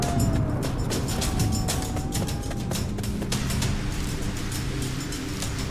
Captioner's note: coyote howling